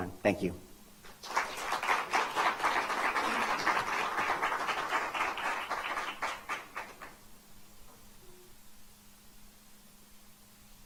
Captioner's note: applause